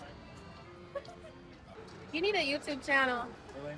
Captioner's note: laughs